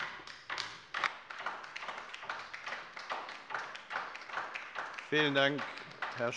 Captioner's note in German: Beifall bei der LINKEN